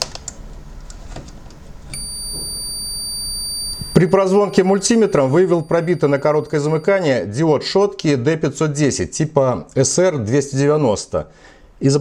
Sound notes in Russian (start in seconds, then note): 1.9 Звучит сигнал мультиметра